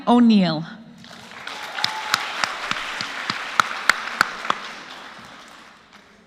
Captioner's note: applause